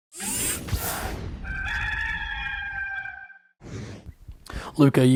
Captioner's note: rooster's calling